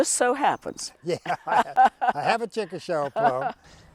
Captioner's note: laughter